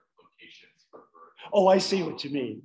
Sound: man speaking away from the mic

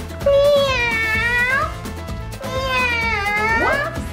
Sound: meowing

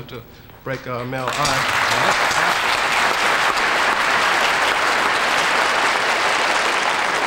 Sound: audience applauding enthusiastically

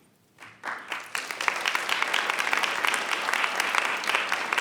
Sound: audience applauds

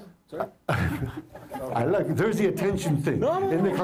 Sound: laughter

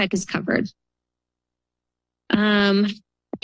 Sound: pause

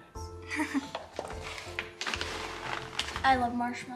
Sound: giggles

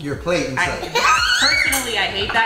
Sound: giggles

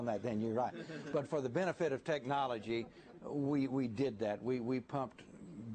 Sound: laughter

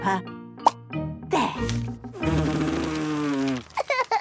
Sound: blows

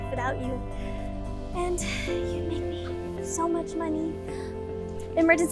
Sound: whispered

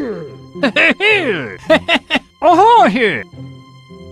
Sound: More Toadsworth Gibberish

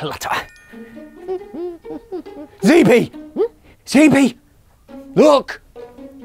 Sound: zb hums

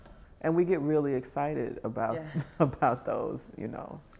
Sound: chuckles

